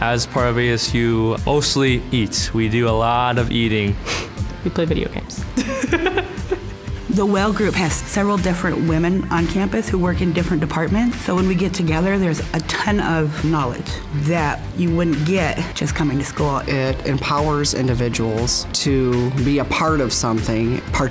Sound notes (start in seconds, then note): 5.6 laughing